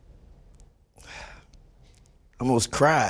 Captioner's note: sighs